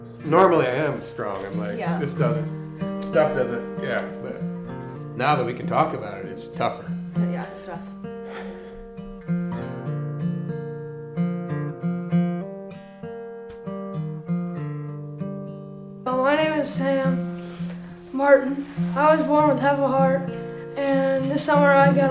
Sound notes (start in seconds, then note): 8.1 breathes out; 10.5 guitar playing